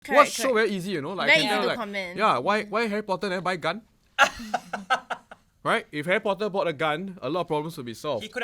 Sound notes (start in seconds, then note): 4.2 laughs